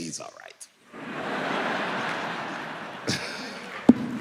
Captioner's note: audience laughing